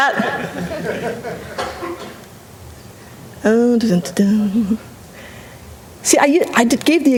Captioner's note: humming